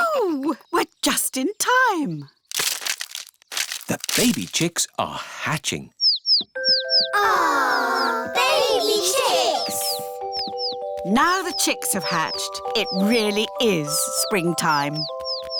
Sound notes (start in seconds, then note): 6.0 chicks cheeping